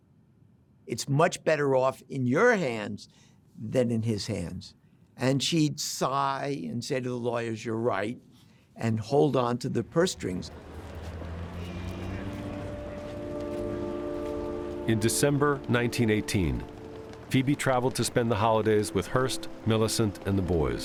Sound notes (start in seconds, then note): 10.3 horn honks